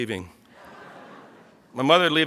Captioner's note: audience laughs